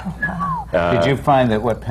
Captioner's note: the panel gasps